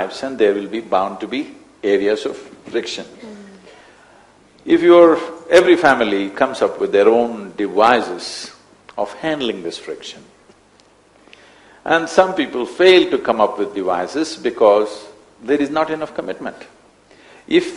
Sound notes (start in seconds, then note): none